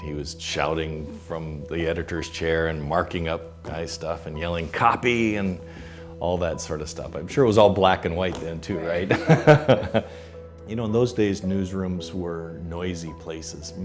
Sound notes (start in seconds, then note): 8.8 laughing